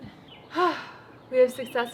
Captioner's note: deep sigh